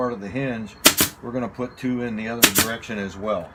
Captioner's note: nail gun operating; nail gun operating